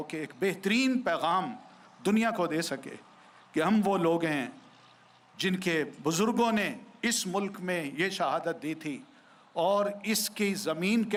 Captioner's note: speaking urdu